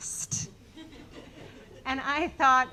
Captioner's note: audience laughing